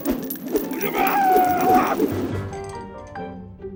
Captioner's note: screaming